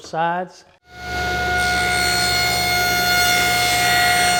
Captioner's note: bandsaw cutting